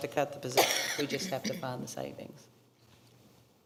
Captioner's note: coughing